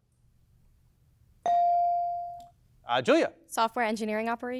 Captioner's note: bell dings